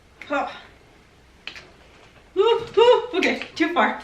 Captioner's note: grunting